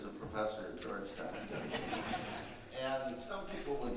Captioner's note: audience laughing